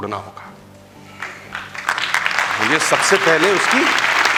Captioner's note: rounds of applause